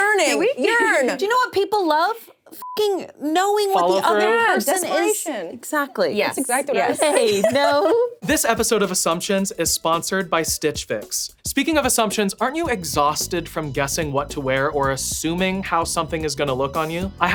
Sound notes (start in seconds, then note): 2.6 beep